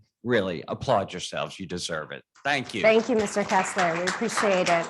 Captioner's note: applause